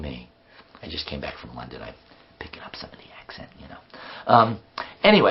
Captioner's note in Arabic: نطق الكلمة باللهجة البرطانية بدلا من الأمريكية